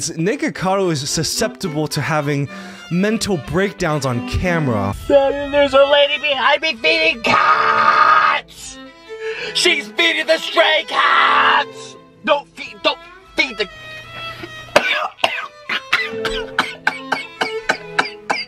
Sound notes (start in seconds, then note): 14.6 coughing